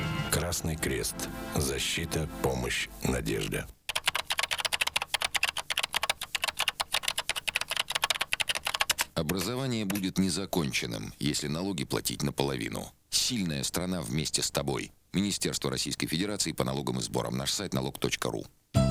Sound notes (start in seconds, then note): 3.8 the sound of printing on the keyboard